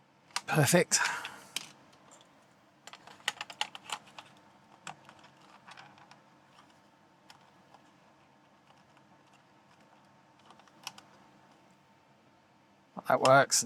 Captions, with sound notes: Perfect. (Silence) That works.